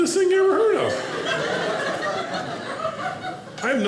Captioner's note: audience laughing